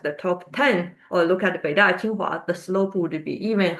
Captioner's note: speaks in Chinese